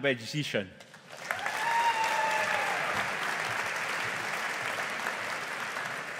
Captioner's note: audience applauding